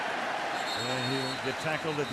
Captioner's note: whistle